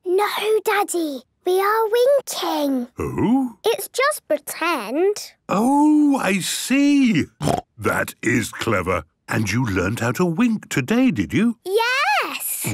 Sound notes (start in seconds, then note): 7.4 snort